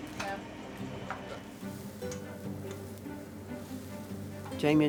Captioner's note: food sizzling